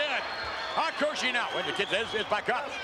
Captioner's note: spectators cheering